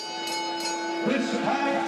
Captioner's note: bell dings